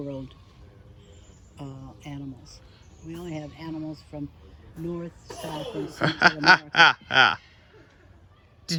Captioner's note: laughing at monkeys off sealing